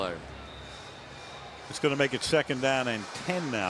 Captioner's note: whistles